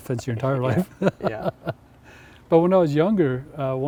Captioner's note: laughs